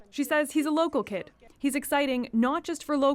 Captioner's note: speaking French